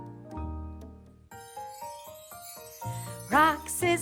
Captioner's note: chimes ring